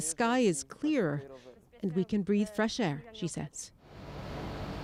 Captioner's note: speaking russian